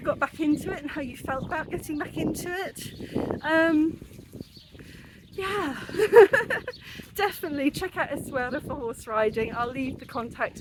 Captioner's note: laughing